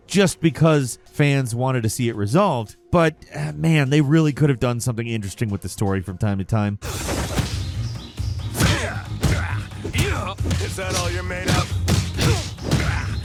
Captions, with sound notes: just because fans wanted to see it resolved, but, man, they really could've done something interesting with the story from time to time. (kicks thudding) (characters grunting) - Is that all you're made of?